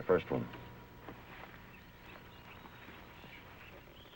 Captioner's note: birds chirping